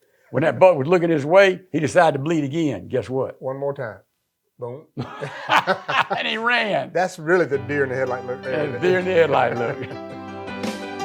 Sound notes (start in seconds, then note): 5.0 laughing